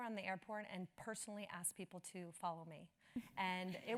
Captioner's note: laugh